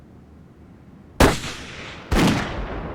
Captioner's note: gunshots